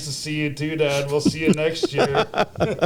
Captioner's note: laughter